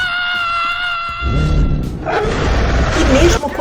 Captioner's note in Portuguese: gritos